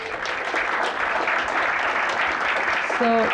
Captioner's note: applause